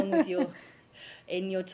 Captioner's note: laughter